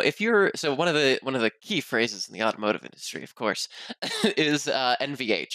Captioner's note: laughs